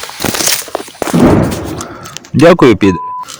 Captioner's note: sounds of explosions